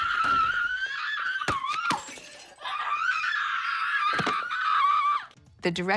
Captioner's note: screaming continues; glass shatters